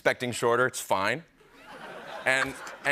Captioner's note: laughter